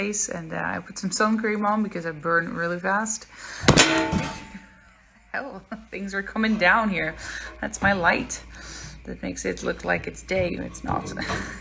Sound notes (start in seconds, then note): 3.6 lamp falling down